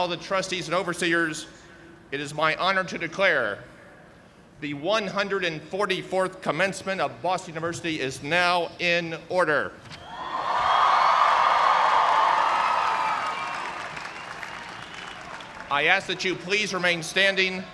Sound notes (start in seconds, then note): 10.1 cheers and applause